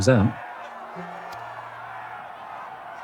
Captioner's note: crowd cheering